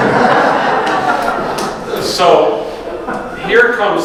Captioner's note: audience laughs